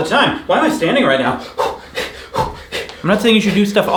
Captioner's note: breathing heavily